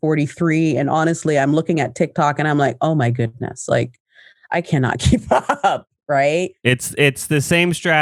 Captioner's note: laughs